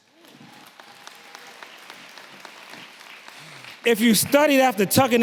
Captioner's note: audience clapping and cheering